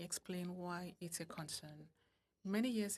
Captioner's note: speaking French